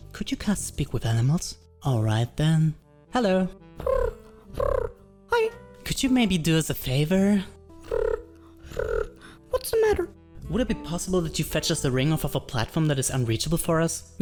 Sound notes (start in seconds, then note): 3.8 coos; 7.8 coos